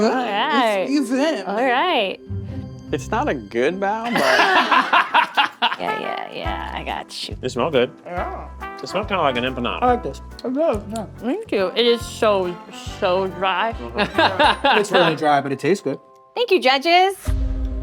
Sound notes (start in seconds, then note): 4.0 all laughing; 4.5 upbeat music; 14.0 laughing